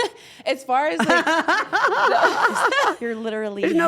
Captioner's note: laugh